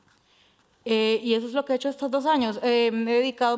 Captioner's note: speaking Spanish